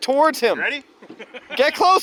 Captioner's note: laughing